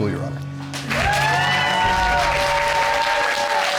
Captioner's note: audience cheers and applauds